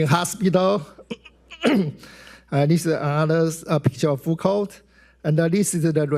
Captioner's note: clears throat